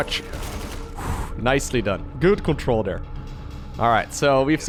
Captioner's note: exhales